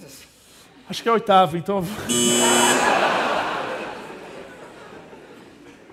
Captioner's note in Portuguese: risos e campainha